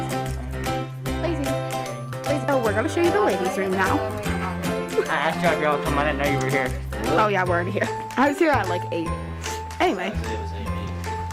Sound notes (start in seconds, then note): 2.3 people talking; 2.9 cheery music; 11.1 cheery music